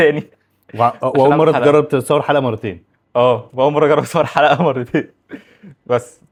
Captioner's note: laughs